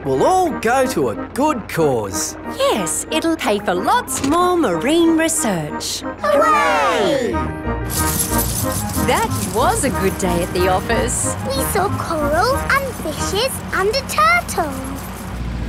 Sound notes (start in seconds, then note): 7.8 coins jingling